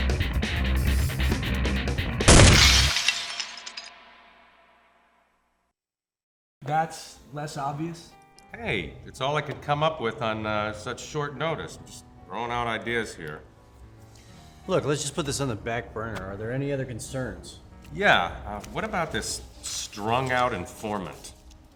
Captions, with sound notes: (gunshot booms) (bottle crashes) - That's less obvious? - Hey, it's all I could come up with on such short notice. I'm just throwing out ideas here. - Look, let's just put this on the back burner. Are there any other concerns? - Yeah. What about this strung-out informant?